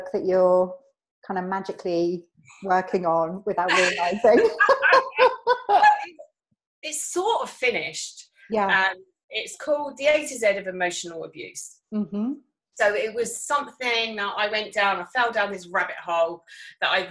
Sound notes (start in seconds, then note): 3.7 laughing